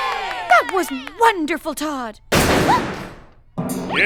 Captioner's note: door slams open